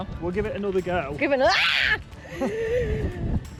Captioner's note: screams